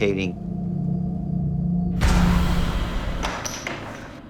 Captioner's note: whoosh; planchette clatters